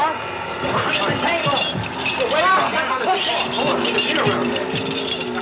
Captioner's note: all Chattering